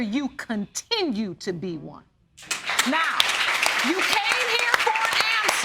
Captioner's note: applause